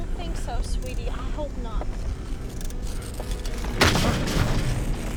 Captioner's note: tearing Continues